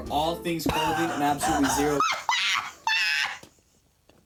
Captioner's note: laughing